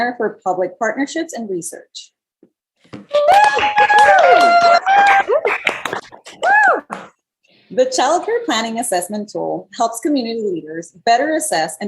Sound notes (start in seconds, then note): 3.3 applause